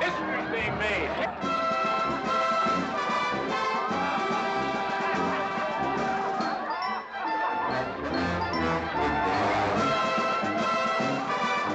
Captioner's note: amused crowd noises